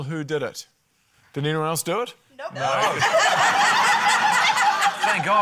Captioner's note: laughter